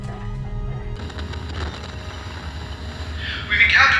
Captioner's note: radio static